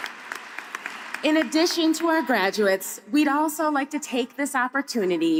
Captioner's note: applause